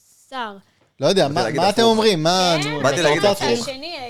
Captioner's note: laughs